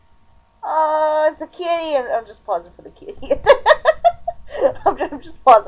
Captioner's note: laughter